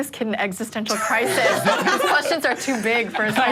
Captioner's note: group laughing